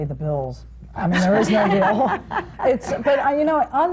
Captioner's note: laughter